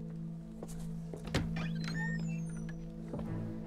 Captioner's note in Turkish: Kapı gıcırdama sesi